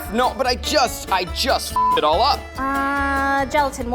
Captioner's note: beeps